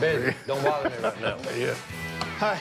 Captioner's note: laughs